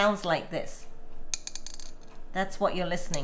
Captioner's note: clinking